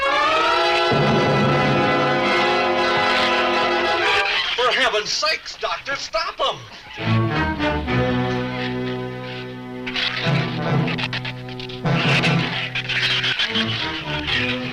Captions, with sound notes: - For heaven's sakes, Doctor! Stop him! (ominous orchestral music) (shrews chatter)